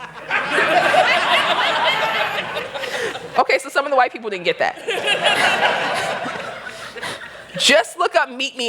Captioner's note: laughter